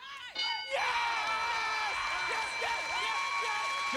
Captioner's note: cheers and applause